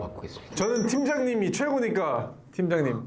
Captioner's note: ding-a-ling